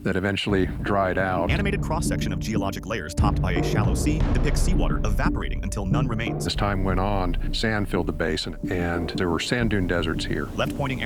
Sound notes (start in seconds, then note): 3.2 distant ocean waves